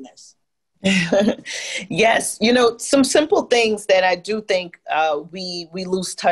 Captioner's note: laugh